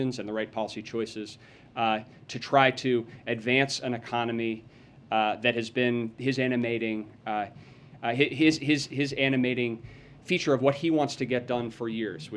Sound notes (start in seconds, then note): none